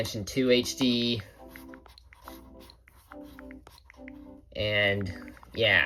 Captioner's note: scrolling noises